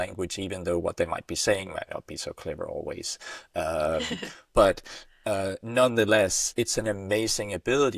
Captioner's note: chuckles